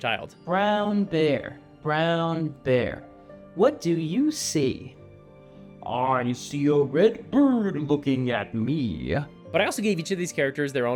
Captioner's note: deep voice